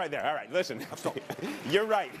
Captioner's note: applause